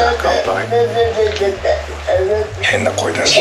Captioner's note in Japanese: 変な声が聞こえます